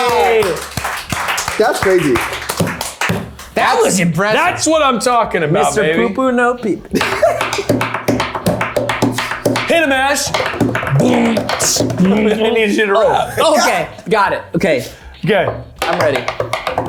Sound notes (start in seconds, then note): 0.1 applauding; 7.0 tapping table; 11.1 beatboxing